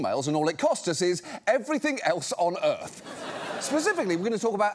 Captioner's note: audience laughs